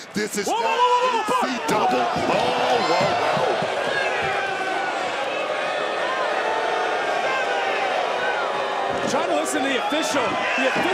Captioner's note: crowd boos